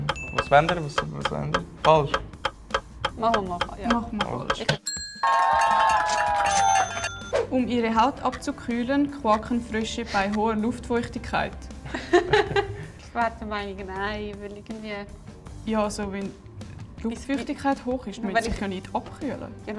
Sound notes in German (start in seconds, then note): 4.6 ka-tsching; 4.8 Buzzer richtig; 5.1 mehrere Personen jubeln und klatschen; 11.9 Alle lachen